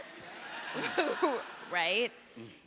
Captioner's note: audience laughing